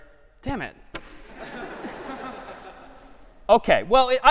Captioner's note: laughter